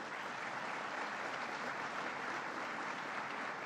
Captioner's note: applause